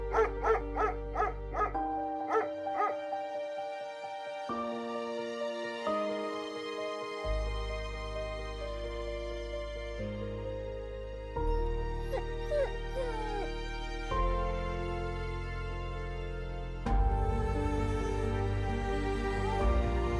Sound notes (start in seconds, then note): 0.0 Willamina barking; 3.4 gentle music; 11.4 Willamina moaning; 14.8 gentle music